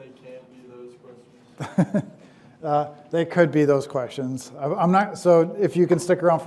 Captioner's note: laughs